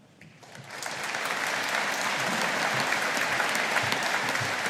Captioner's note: audience applauding